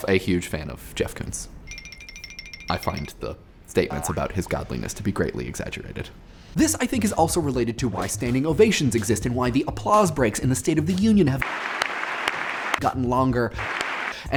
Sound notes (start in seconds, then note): 1.6 ringing; 11.4 applause